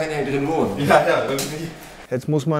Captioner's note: laughs